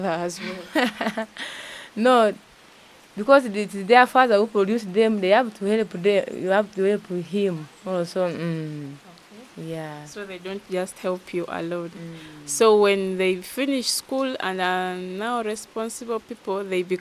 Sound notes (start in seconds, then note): 0.4 laughing